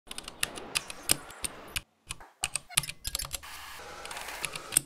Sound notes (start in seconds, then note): 0.0 devices clicking